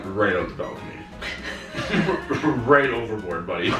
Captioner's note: laughing